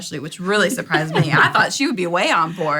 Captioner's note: laughter